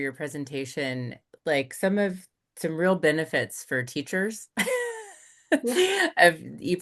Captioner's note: laughs